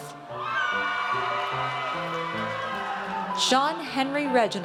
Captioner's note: audience cheers